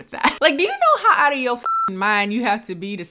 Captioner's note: beep